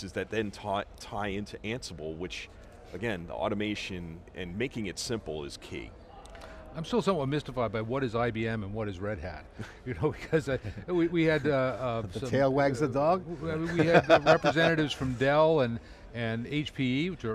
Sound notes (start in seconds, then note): 13.6 laughs